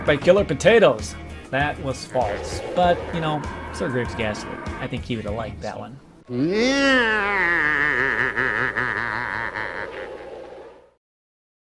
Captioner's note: laughter